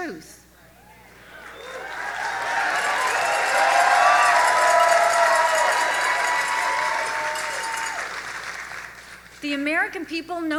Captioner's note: audience applauds